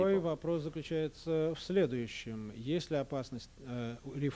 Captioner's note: non-english speech